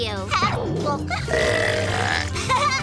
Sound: burping

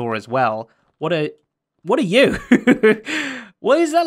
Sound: chuckles

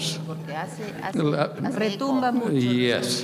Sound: speaking in a foreign language

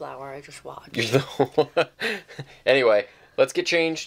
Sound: laughing

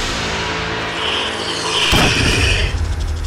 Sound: tense music playing; hissing

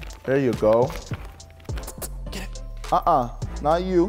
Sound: kissing noises; kissing noises

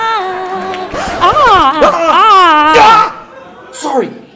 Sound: ahh!

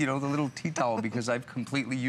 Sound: laughter

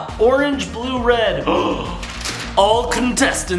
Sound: gasps

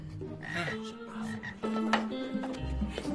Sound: frog croaking; Brett laughs; classmate whispers; whimsical music

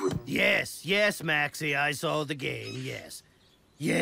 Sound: bird squawking

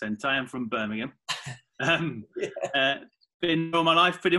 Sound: laughs

